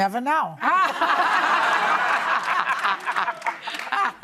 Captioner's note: laughing